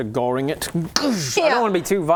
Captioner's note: goosh